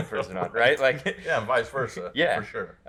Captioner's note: laughter